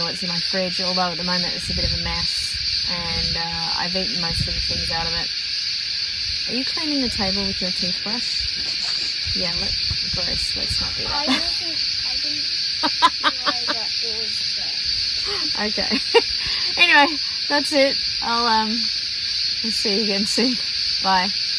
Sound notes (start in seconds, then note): 10.7 laughs; 12.7 laughs loudly